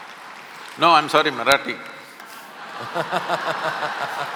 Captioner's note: laughter/Applause; laughter/Applause